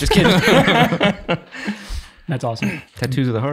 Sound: all laughing

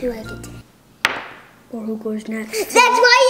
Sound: thud

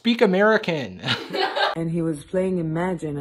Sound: laughing

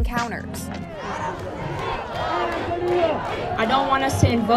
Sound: protest chanting

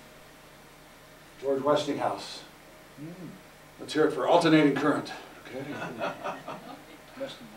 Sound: audience Laughter

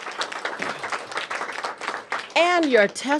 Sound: applause

